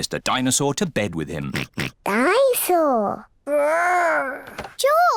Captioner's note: oinks